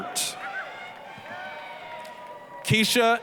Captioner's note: applause, cheering